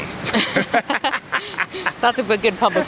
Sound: man and woman laughing

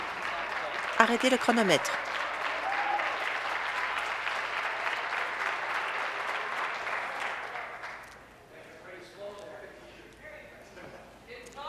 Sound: applause

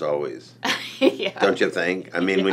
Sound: laughs

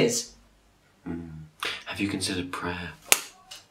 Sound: slap

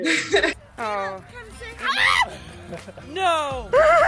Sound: screams

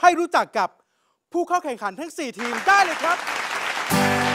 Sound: clapping

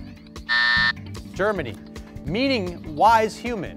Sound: timer buzzes

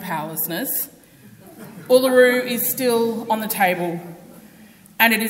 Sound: audience laughs

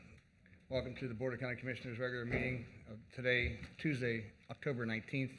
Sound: gavel sounds

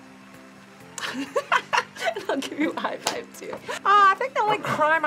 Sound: laughs

